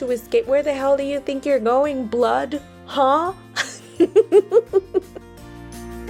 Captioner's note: laughs